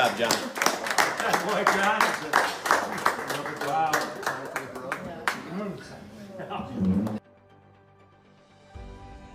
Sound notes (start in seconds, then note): 3.3 group applauds